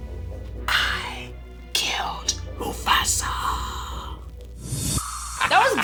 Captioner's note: whispers